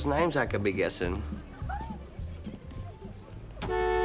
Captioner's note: giggling